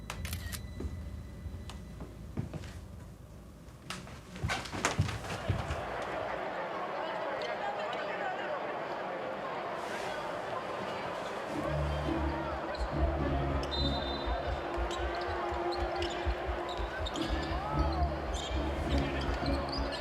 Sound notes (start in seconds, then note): 0.1 camera clicks; 5.8 TV quietly prattling; 11.6 dramatic music; 12.5 referee whistles; 16.6 TV quietly prattling